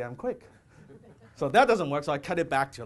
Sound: audience laughter

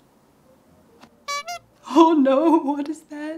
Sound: bicycle horn

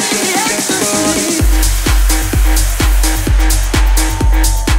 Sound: crowd cheering

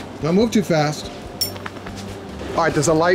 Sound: collar jingles

